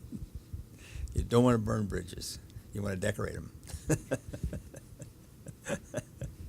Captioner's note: chuckles